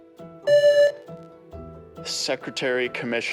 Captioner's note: buzzer